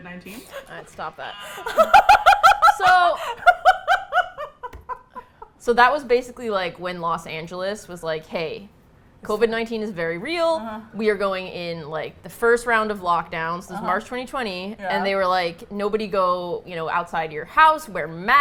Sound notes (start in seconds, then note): 0.0 present laughing; 1.4 laughs hysterically